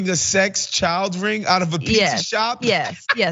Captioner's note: laugh